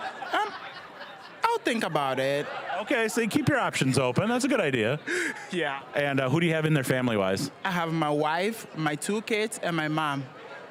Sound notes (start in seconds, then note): 5.5 laughing